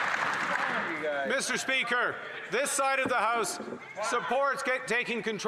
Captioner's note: some Applause